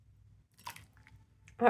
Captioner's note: splosh